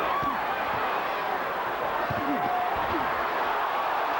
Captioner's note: cheering